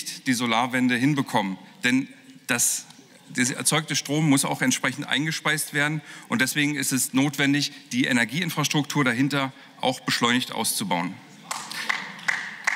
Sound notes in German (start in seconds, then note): 11.4 Beifall